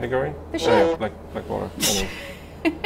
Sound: horn blares; laughing

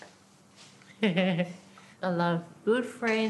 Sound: laughter

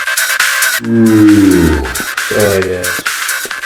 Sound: yawn

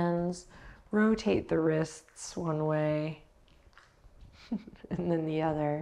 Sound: chuckles

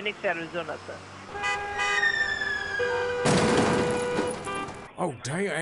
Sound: heavy car traffic sound

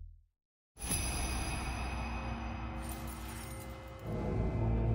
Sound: jewelry clinking

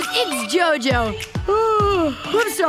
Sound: yawning

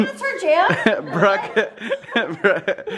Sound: laughs

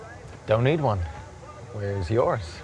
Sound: none

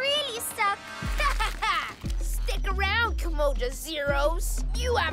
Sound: evil laugh

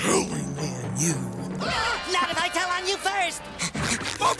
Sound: gasping

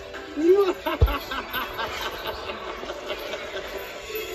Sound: evil Laugh

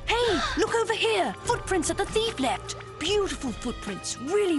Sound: gasp

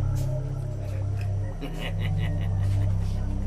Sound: man laughing maniacally

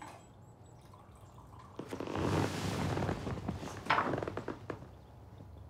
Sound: coffee splashes

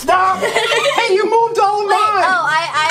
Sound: assistant laughs

